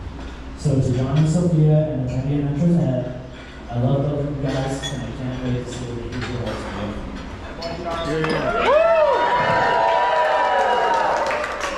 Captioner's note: applause